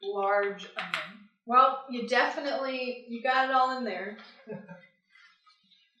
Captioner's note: chuckles